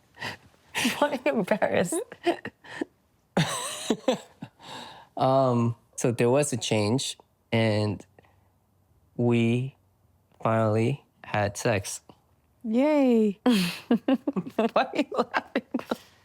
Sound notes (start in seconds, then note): 3.4 laughs